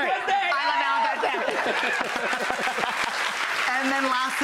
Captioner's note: laughing; audience clapping